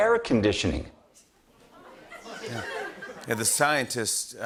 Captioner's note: laughter